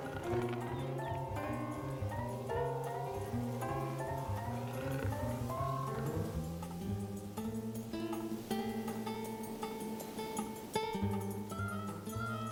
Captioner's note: snarls